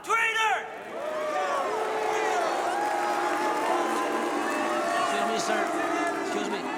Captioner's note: members applauding; members booing